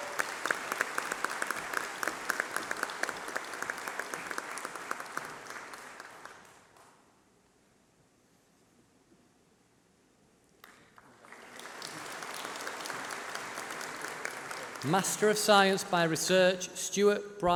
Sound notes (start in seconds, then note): 8.7 applause